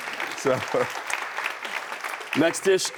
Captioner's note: audience applauding